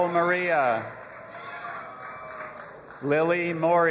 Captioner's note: audience applauding and cheering